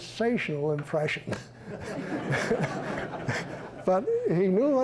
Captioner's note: chuckling